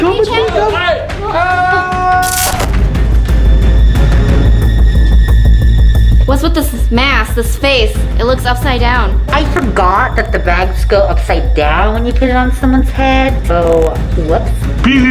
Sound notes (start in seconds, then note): 1.2 shouts; 2.4 ominous music; 2.4 static hisses